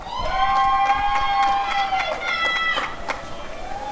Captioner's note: applause and cheering